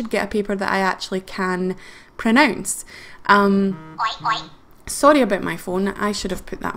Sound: text message ringtone: Oink Oink

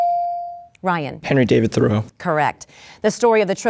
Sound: dinging

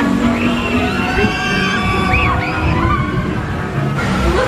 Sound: guests screaming

